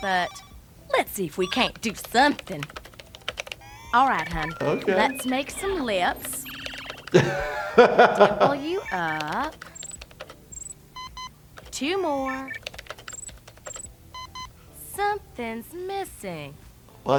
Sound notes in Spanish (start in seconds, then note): 1.4 sonidos de escritura; 6.8 reír; 8.6 sonidos de escritura; 10.8 la computadora emite un pitido; 11.5 sonidos de escritura; 14.1 la computadora emite un pitido